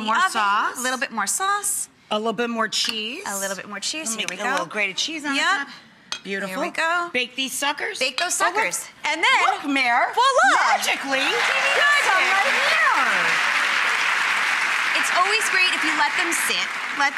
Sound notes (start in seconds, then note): 10.6 applause